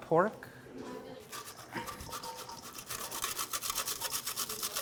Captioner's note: grating